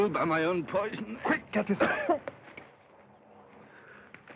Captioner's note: coughs